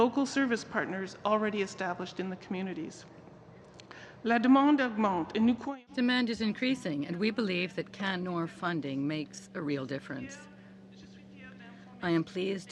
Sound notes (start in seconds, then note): 8.9 speaking French